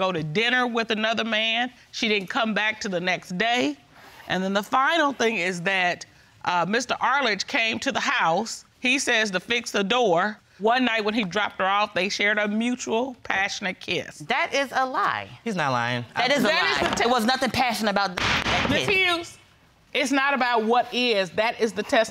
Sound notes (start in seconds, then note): 18.2 gavel banging